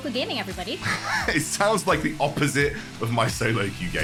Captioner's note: laughs